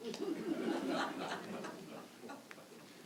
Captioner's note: mild laughter